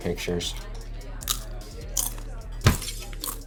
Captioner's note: people chattering; boy chomping snacks; glass shattering; light thudding